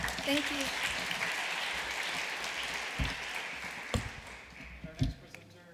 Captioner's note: applause